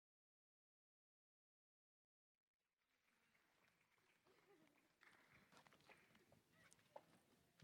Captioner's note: applause